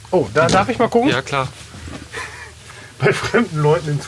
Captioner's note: laughs